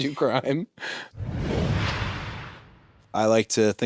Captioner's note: logo whooshes